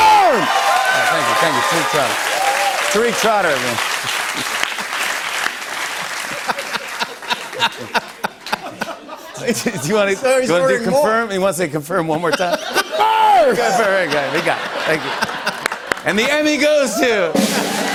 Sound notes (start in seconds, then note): 5.9 laughing; 17.3 drumroll